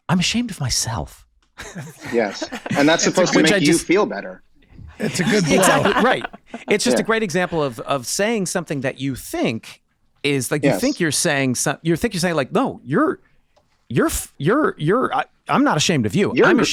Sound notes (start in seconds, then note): 1.6 Megan, Charlie laughing